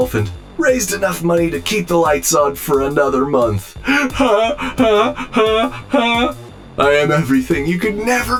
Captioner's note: robotic laugh